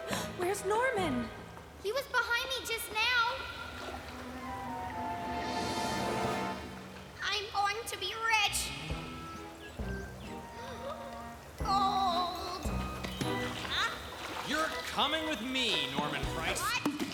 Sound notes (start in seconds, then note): 0.3 gasp; 10.7 gasps